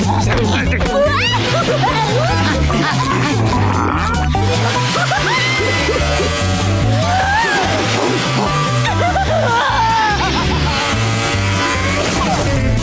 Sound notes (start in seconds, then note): 0.0 laughing; 4.8 laughing, buzzing; 6.8 laughing; 10.5 buzzing